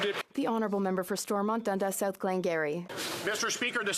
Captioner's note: some Applause